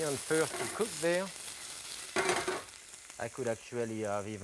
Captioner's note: onions sizzling